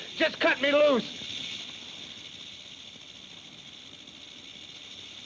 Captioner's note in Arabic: خشخشة الثعبان